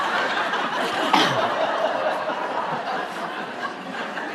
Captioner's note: laughter